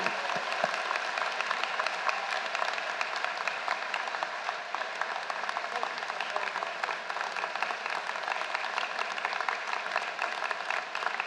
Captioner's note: applause